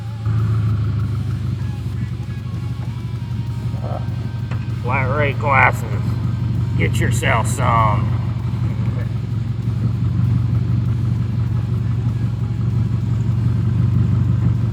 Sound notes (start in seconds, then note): 0.0 engine revving; 2.2 engine clattering as if it just got it's sh*t reamed